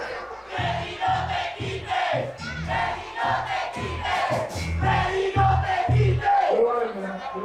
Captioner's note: crowd